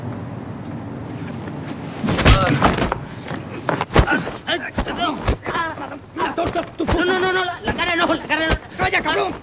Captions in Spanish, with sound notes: (Golpes) No, no, en la cara no. En la cara no... Calla, cabrón.